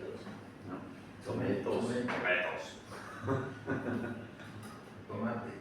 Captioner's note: giggle